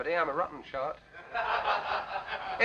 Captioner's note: laughter